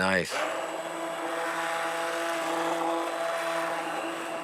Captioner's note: whirring